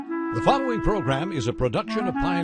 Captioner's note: voiceover